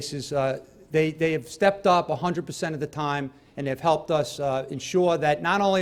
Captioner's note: stutters